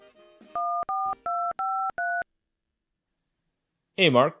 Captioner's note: phone dialing